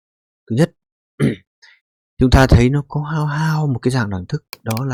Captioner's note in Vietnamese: hắng giọng